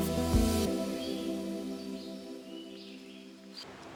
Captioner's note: nature ambience